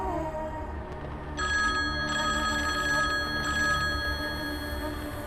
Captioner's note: cellphone ringing